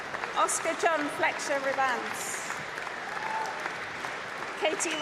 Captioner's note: applause